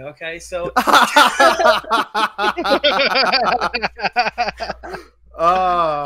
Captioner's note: laughs